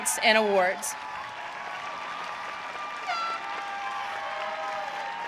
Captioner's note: audience cheering